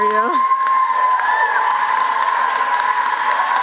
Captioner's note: cheering